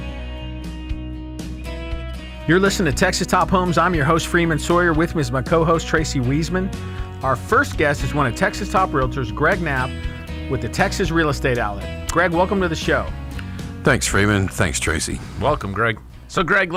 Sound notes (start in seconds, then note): 0.1 slow guitar music; 3.0 voiceover